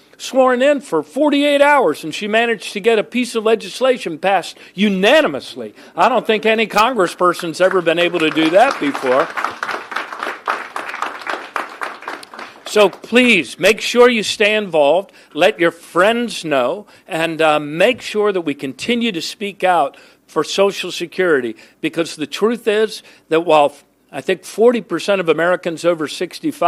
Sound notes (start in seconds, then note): 12.1 applause